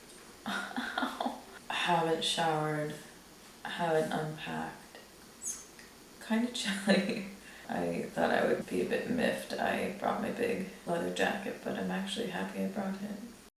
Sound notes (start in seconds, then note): 6.7 chuckles